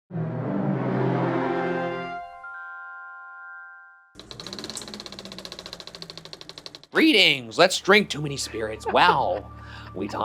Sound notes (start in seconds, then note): 4.2 film reel whirs; 8.1 laughs